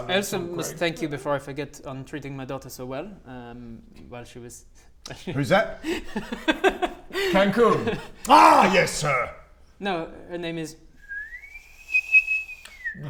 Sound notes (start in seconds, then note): 5.8 unsurprised giggles; 11.1 kettle whistling